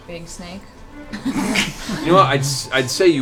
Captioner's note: laughter